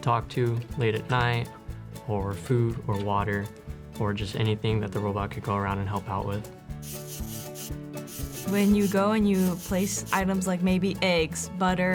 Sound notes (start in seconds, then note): 6.8 robot whirling